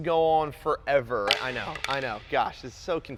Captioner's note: tennis racket hits ground